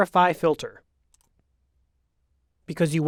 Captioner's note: mouse clicks